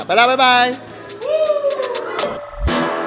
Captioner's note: cheering